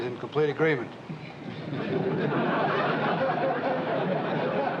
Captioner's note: laughter